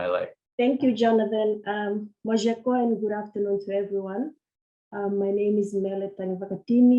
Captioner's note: foreign language is spoken